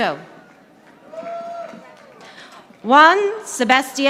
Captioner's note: audience applauding